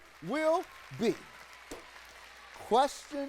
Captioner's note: audience clapping